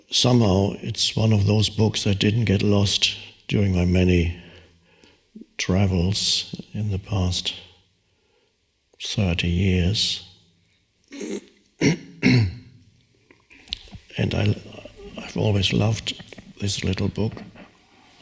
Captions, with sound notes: Somehow, it's one of those books that didn't get lost during my many travels in the past 30 years. (clears throat) And I've always loved this little book.